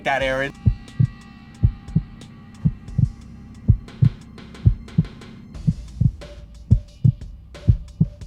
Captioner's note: heartbeat thumps